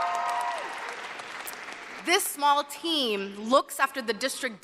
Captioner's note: cheers and applause